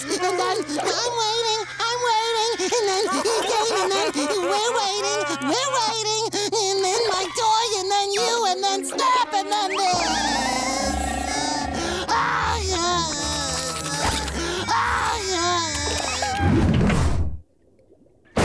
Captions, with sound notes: I'm waiting. I'm waiting. And then he came and we're waiting. We're waiting. And then my toy, and then you and then snap and then this! [crying]